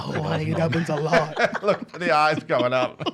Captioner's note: laughs